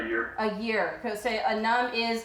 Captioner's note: speaking foreign language